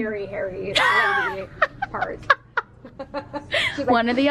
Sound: both laugh

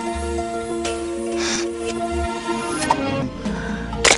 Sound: sniff

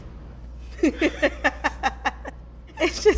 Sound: laughing

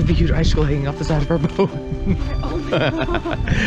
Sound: laughs

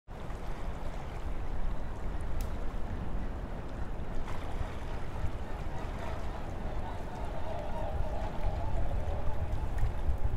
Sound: water Flowing... Fire Crackling

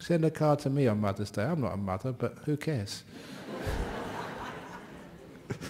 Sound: laughter

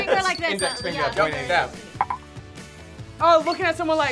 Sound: bell dings

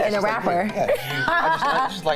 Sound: laughs

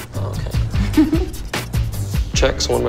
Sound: laughs

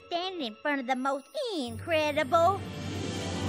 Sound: whoosh!

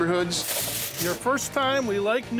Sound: foil crinkling

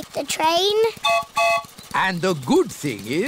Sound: train whistle blows

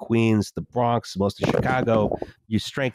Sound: muffled thumping

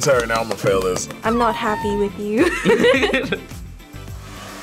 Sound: both laugh

